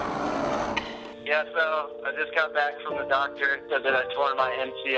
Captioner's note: distorted through voicemail